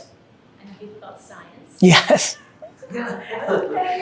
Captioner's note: chuckles